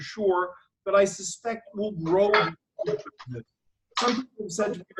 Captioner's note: audio warbles